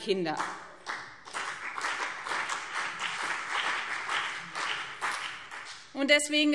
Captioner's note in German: Beifall BÜNDNIS 90/DIE GRÜNEN und CDU